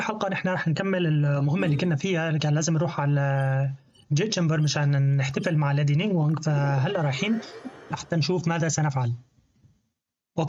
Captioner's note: beeps